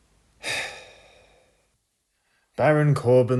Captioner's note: sighs